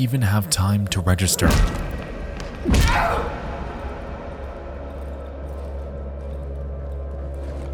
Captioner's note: punches thudding; characters grunting